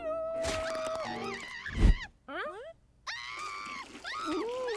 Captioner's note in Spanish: Sniffles grita